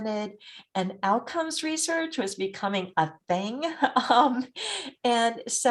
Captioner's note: chuckles